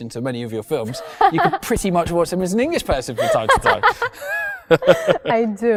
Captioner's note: both laugh